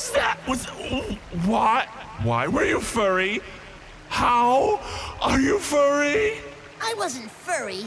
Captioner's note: grossed out noises